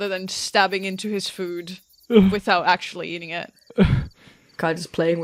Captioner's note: sighs